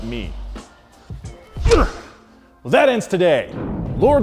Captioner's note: grunts